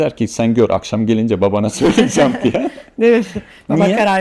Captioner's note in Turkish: kahkaha